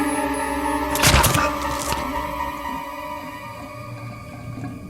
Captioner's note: dramatic music; flesh crunching